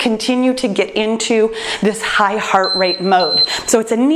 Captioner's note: timer beeps